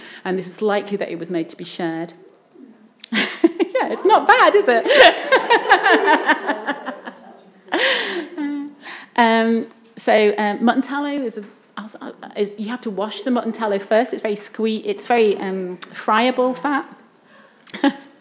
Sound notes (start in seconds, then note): 3.2 laughs